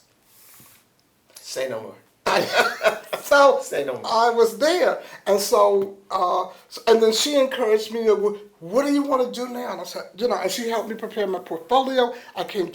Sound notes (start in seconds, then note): 2.3 laughter